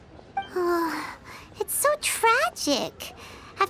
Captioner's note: sigh